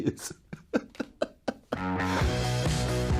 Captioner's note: chuckles; upbeat music